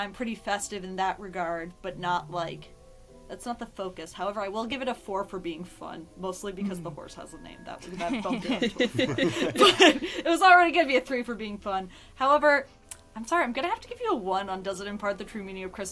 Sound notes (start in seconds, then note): 7.8 laughter